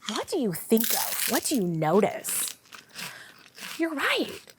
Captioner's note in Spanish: crujido